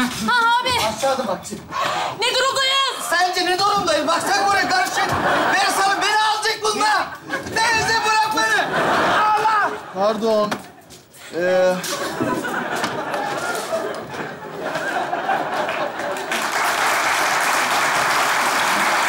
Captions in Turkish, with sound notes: -Aşağı adım atacağım. -Ne durumdayız? -Sence ne durumdayım? Baksana durum karışık. Beni salın. Beni alacak bunlar. Beni bırakmayın. -Pardon. (Kahkaha ve alkış sesleri)